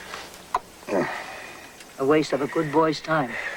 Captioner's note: grunt